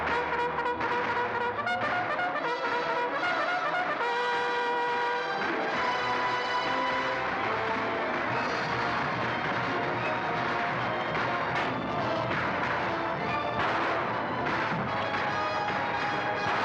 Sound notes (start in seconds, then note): 0.0 bugle call; 5.5 dramatic orchestral music; 5.5 guns firing